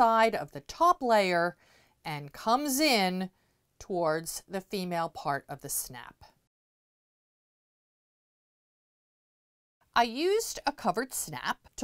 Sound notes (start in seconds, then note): 6.4 no Sound Present